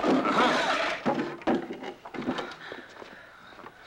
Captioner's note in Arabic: تأوه